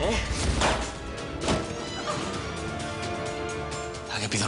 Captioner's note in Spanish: Disparos